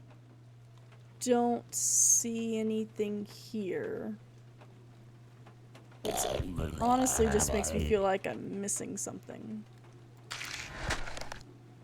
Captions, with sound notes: I don't see anything here. [Guttural Noises] Which honestly just makes me feel like I'm missing something. [Mechanical Sounds, Slicing / Bone Breaking]